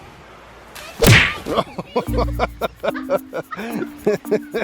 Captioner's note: branch snapping; laughing; both laughing